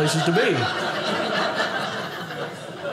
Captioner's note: audience laughing